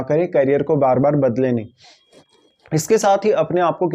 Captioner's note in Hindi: नाक से की जाने वाली आवाज़